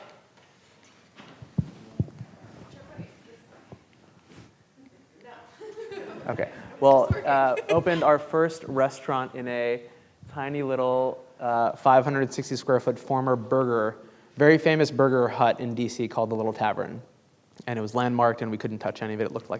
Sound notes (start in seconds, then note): 5.6 class laughing